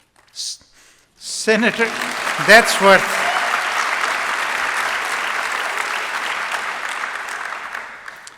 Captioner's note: applause